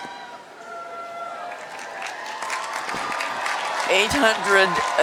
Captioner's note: cheering